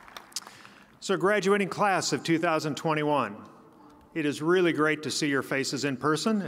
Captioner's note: applause